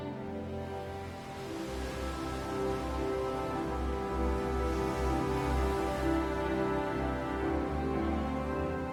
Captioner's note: waves crashing